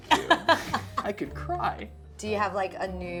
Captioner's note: laughing